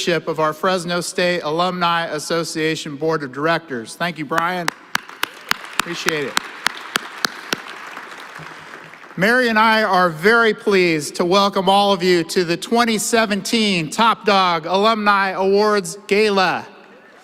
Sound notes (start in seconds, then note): 4.6 applause